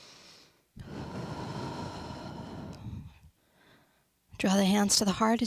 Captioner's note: breathes deeply